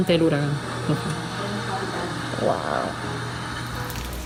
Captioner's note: rain hitting ground